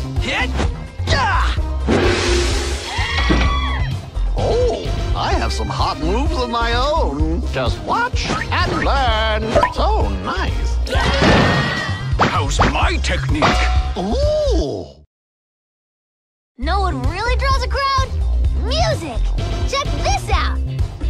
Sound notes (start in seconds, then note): 0.1 martial arts cries; 10.8 screams of horror; 15.0 indifferent silence